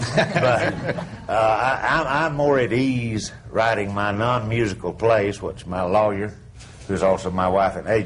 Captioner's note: laughter